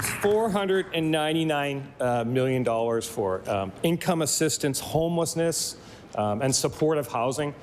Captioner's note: applause